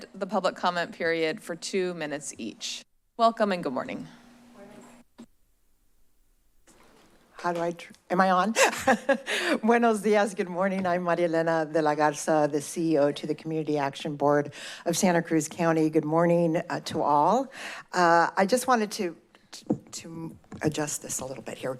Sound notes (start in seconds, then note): 8.6 chuckles; 9.6 foreign language